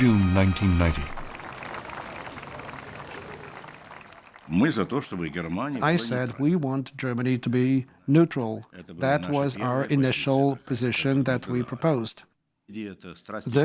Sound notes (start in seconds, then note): 4.0 Gorbachev speaking Russian